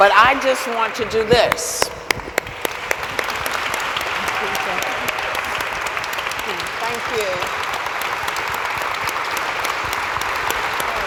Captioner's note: applauds